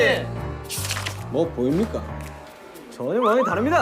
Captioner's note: mysterious footstep